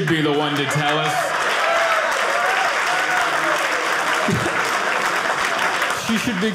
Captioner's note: audience applauding